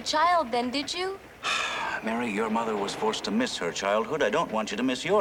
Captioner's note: sighs